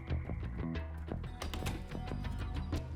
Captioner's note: door closes